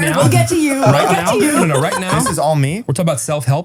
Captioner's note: laughs